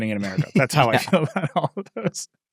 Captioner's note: both laughing